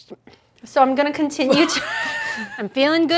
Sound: laughs

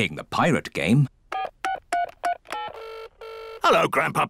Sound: line ringing; dialing phone

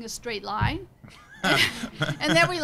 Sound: laughing

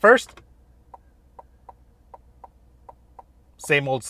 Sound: indicator clicking

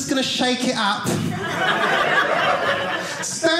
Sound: audience laughing

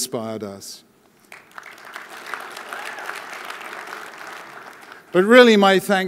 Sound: audience applauding

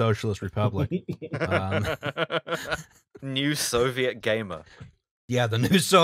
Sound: laughter

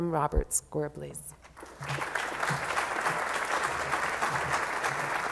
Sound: applause

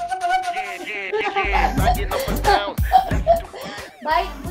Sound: laughing

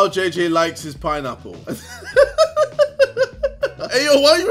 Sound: laughs

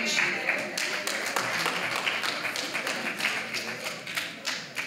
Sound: applause

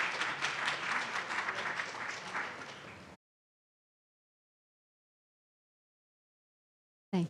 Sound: audience applauds

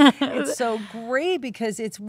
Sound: Kate laughing

